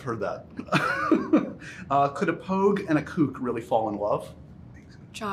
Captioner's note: laughs